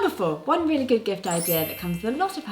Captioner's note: magical chiming; pleasant music resuming